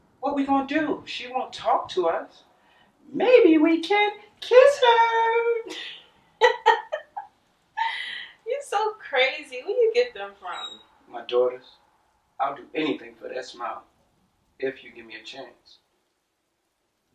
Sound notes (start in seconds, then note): 6.4 laughing